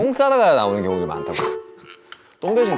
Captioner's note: hmmph